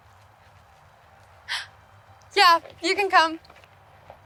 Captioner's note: gasps